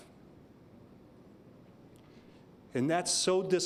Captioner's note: silence